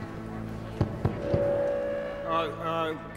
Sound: tapping on mic, feedback squeals

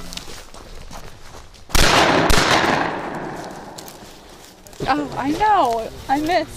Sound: gun shots

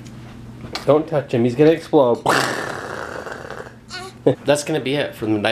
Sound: explosion noise

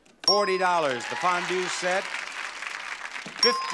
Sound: bell dings; bell dings; audience applauds

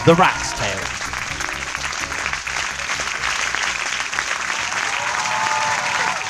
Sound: totally real applause lol

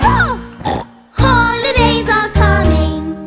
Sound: snorts

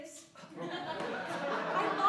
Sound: laughter

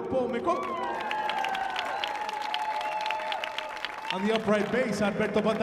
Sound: audience applauding

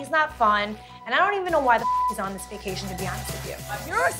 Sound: beep

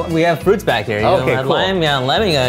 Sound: none

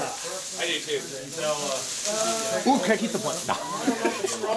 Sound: laughter

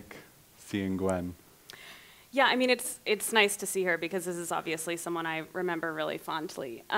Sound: deep inhale

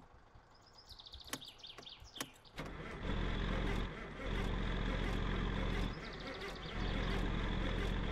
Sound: key clicks, engine struggling to start

